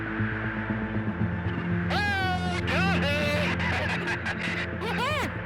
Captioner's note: laughs